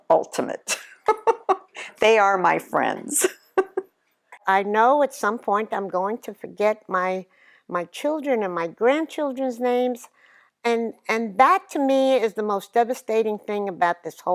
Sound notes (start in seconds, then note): 0.8 laughs; 3.7 laughs